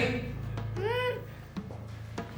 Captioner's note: muffled grunt